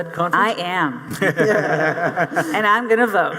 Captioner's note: audience laughing